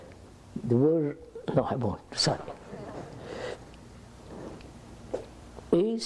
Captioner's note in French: Rires